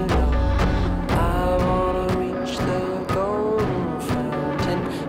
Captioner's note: none